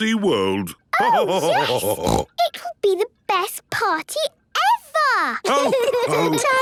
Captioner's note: laughter and snorting; laughter